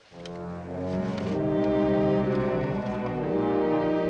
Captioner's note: line buzzing